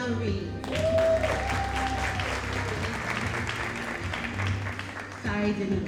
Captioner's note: audience cheering and applauding